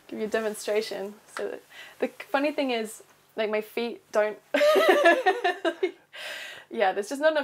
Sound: laughs

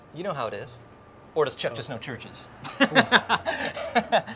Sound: laughs

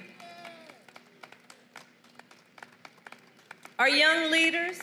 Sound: applause

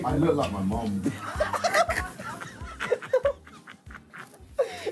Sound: laughing

